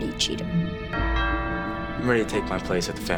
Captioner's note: doorbell rings